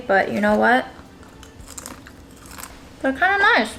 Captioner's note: crackling sound